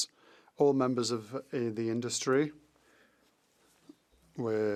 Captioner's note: speaking French